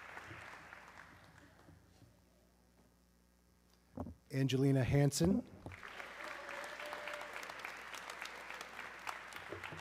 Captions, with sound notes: Angelina Hanson, (audience clapping)